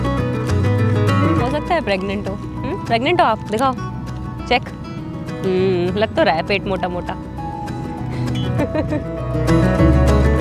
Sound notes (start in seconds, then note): 8.3 chuckles